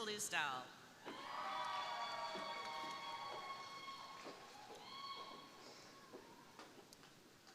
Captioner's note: crowd cheering; crowd applauding